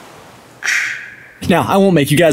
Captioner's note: waves rolling gently; imitating waves crashing